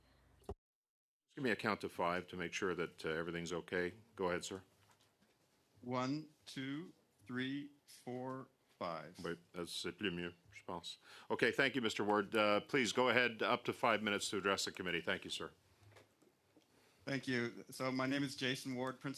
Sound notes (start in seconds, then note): 13.6 speaking French